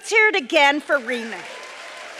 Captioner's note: applause